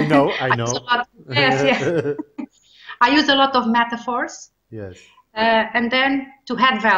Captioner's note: chuckles